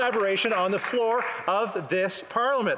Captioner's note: some Applause